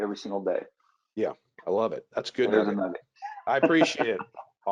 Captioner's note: laughs